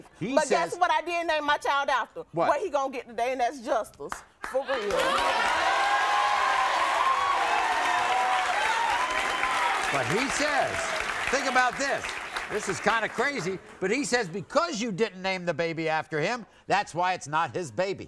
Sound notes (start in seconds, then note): 6.3 audience cheers